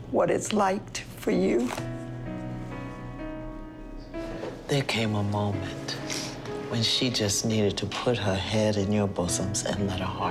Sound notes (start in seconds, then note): none